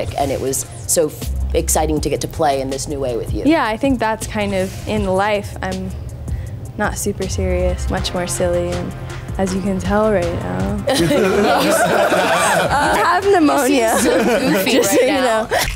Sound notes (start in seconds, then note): 10.9 laughter